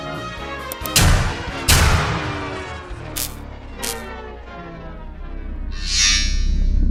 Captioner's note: sparking and powering down; impact; black hole noises?